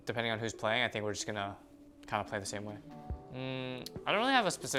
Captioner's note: smacks lips